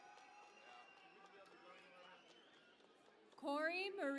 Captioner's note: cheering and Applause